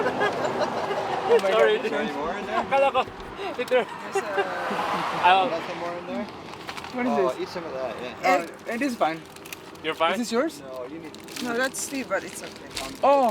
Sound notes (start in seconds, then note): 0.0 laughing loudly; 1.6 crew chattering